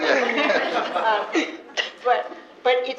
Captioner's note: laughter